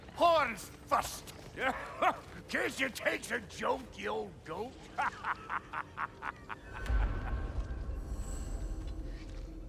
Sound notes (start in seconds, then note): 1.6 laugh; 4.9 laughs